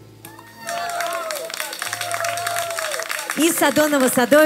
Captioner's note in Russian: аплодисменты